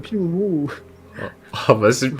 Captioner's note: laugh